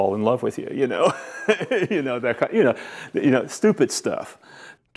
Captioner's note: laughs